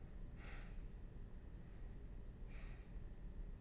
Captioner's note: sighing